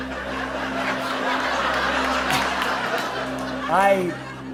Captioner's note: laughter